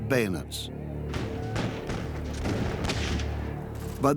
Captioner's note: gunfire and explosions